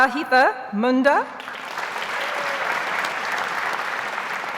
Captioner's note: audience applauds